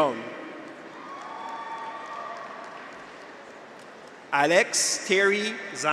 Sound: graduates cheer; audience applauds

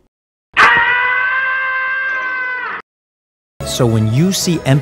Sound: Jesus screaming

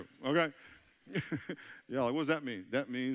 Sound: chuckling

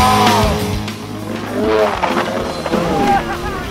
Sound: snowmobile running; cheering

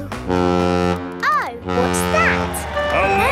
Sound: horn bellowing

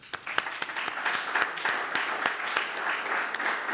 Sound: applauding

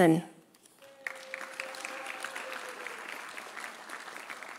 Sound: audience applauding

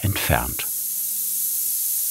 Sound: hissing

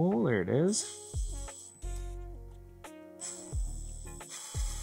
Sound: drill whirring

